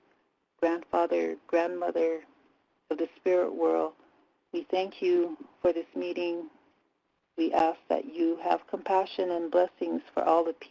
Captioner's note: native language spoken